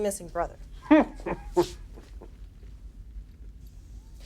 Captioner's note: Nash laughs